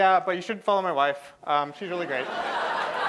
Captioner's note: laughter; applause